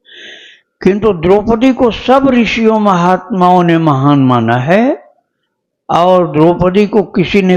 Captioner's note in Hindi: नाक से की जाने वाली आवाज़